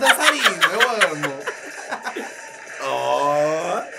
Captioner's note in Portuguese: risos